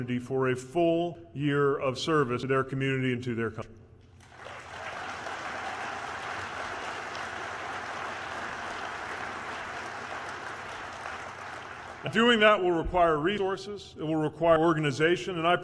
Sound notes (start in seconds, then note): 4.1 applause